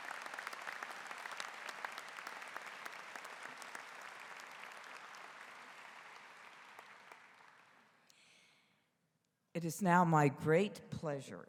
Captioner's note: applause�